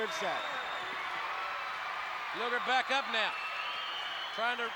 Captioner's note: applause